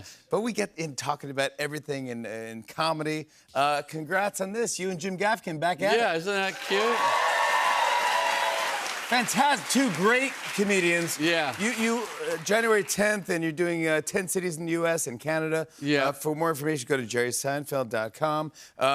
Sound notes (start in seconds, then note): 6.3 cheers and applause